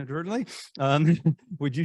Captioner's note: giggling